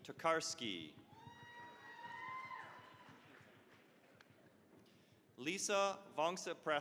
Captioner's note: cheering, applause